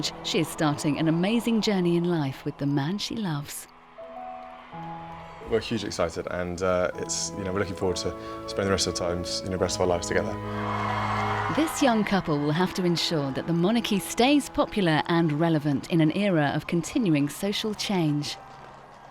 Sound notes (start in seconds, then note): 4.0 crowd cheering